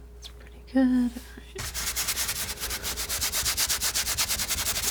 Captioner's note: scratching